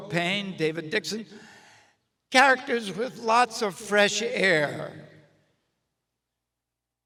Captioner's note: none